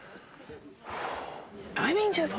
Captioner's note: sighs